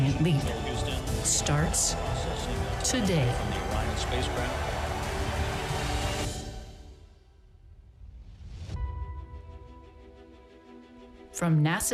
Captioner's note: applause